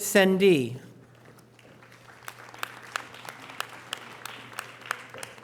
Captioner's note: audience applause